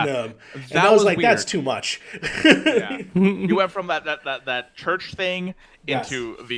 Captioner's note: laughs